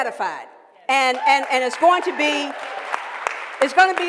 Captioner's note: applause